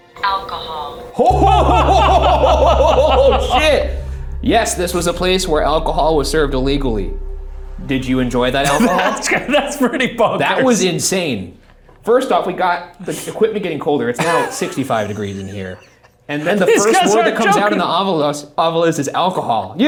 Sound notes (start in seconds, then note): 1.2 both laughs; 14.2 Shane laughs